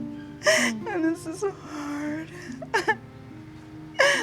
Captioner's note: crying